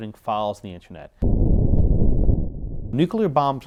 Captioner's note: explosion booms